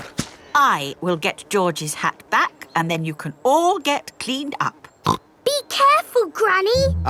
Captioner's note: snorts